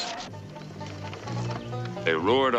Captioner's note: car brakes screeching; upbeat country music